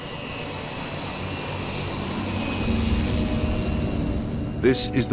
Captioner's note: plane whirring